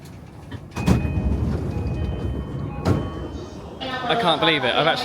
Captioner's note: doors chiming